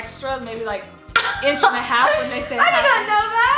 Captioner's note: laughs